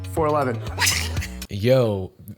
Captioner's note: laughter